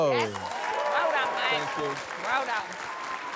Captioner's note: applause